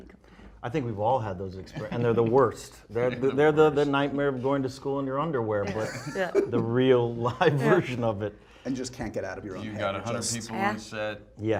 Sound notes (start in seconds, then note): 5.7 laughs